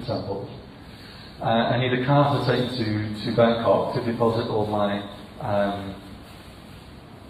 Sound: russle

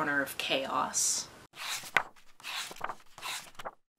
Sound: pages turning

